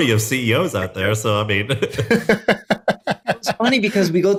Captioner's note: chuckles